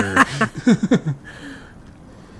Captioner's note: laughs